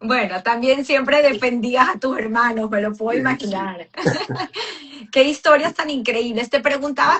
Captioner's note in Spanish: risas